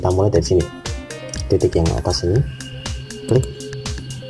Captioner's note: click